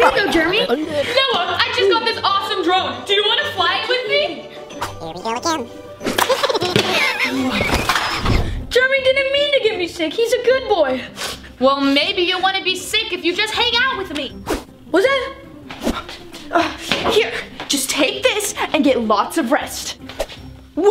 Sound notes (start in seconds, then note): 6.1 pizza splatting